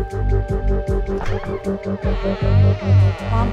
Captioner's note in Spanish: Crujido de la puerta